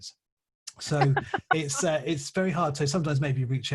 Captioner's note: laughs